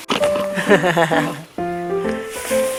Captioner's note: laughs